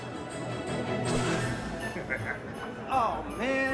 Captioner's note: upbeat music; Santa laughing